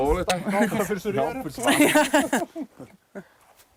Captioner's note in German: Lachend